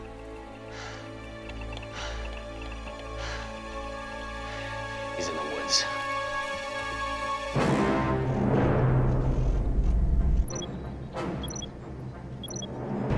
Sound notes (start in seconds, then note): 1.3 clicking continues